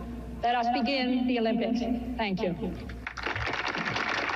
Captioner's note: applause